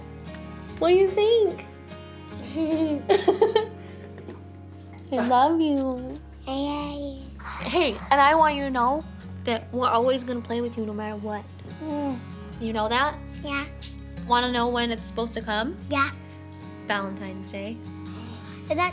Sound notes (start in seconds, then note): 2.4 giggling; 2.4 Chelsea giggling